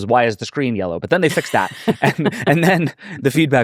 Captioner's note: laughing